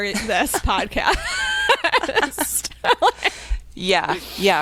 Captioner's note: both laughing